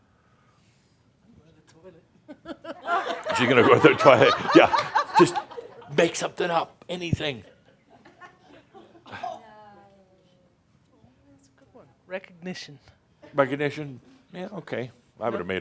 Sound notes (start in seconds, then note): 4.4 she chuckles; 10.0 laughter